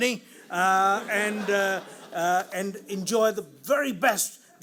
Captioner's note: audience laughs